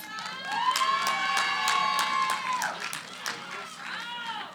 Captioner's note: cheering, applause